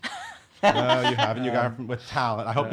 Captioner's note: laughing